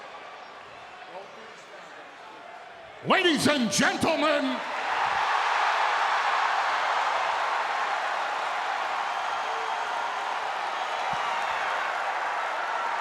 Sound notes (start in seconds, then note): 5.6 crowd cheering